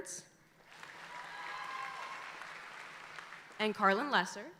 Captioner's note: audience applauding